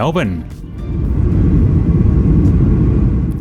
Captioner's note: aeroplane engine